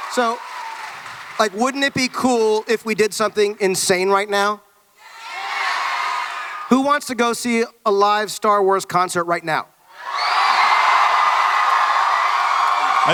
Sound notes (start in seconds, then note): 5.0 audience yells "Yes!"; 9.9 audience cheering